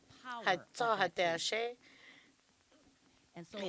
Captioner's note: none